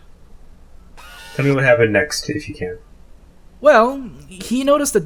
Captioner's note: cast scoffs